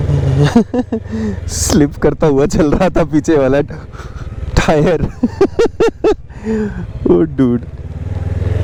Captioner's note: laughter